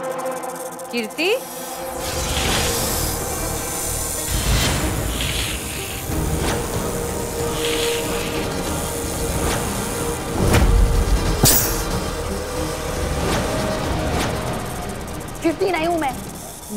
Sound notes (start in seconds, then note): 0.2 hissing sound; 9.7 hisses